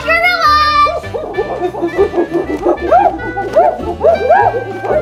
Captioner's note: gorillas grunting